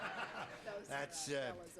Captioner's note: effeminate voice; regular voice